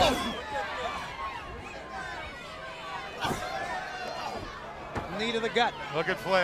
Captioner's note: crowd chatter